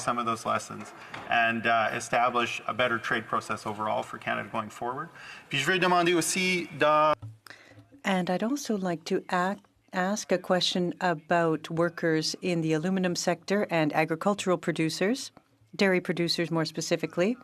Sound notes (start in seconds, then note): 12.6 speaking French